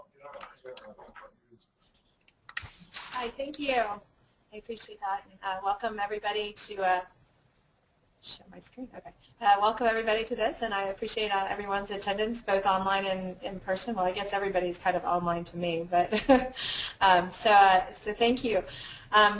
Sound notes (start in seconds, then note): 16.6 laugh